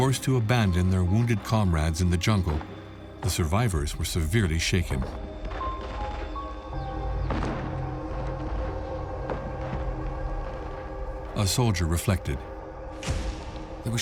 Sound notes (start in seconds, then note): 7.1 gunfire